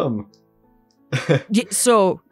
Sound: chuckles

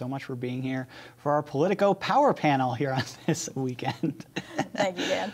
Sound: laughs

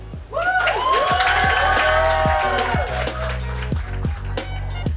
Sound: crowd cheers and claps

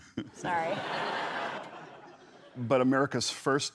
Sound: laughter

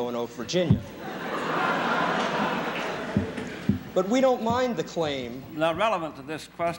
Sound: laughter

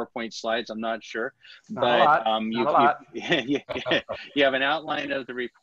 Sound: laughter

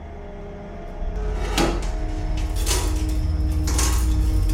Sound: door sound

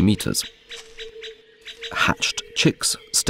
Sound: sounds of nature

